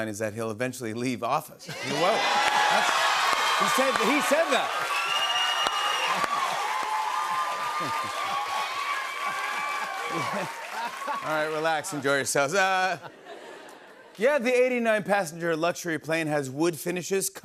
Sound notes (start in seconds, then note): 5.3 cheers and applause; 10.0 laughs